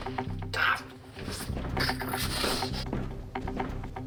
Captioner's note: Eric groans